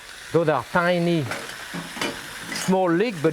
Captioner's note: kitchen tools clinking